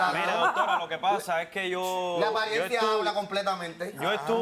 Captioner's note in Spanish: Ríe